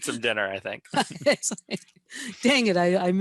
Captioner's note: laughing